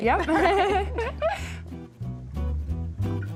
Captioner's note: laughs